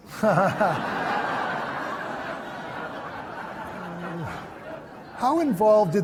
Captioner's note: laughter